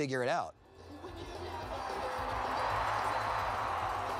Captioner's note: crowd cheering